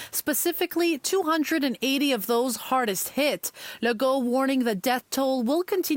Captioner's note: speaking French